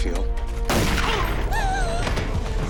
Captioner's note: gunshot; Marla gasps